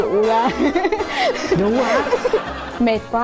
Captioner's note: laughing